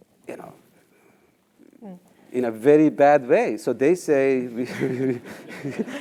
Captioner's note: laugh